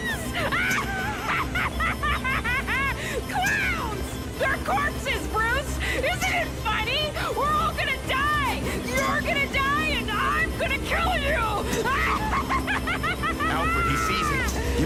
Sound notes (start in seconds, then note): 0.0 laughing; 11.5 laughs